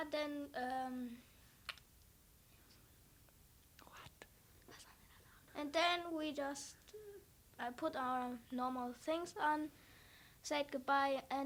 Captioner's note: whisper